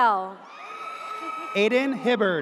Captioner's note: audience cheers